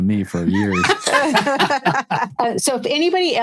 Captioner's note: laughing